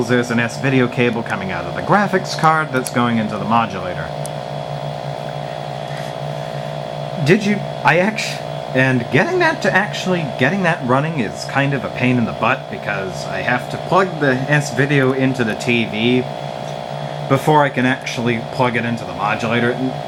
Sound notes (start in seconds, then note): 4.1 the hum continues